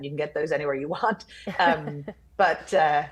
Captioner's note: laughing